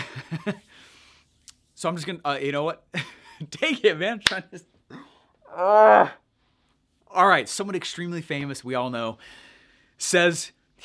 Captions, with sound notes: So I'm just gonna, you know what? (laughing) Take it, man. (loudly groans) All right, somebody extremely famous we all know says